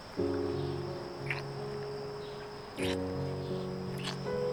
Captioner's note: kissing